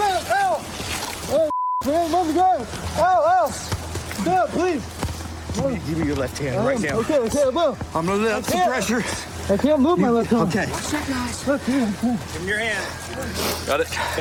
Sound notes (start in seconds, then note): 11.3 muttering